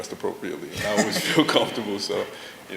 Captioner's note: laughter